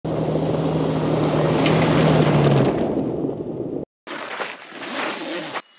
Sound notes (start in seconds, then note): 0.1 engine revving